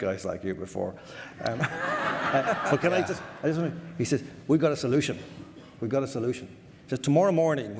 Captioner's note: audience laughter